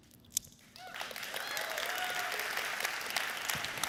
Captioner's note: applause